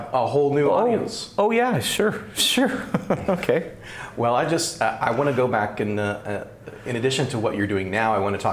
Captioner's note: laughs